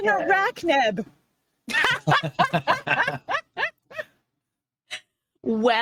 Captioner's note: laughing